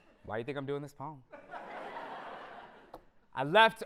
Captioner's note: audience laughter